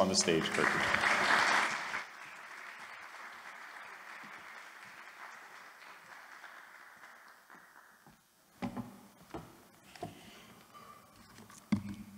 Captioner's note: applause